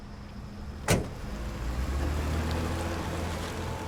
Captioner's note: door closes